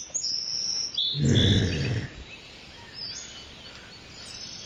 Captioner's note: woman groaning